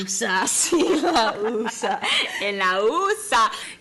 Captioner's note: laughs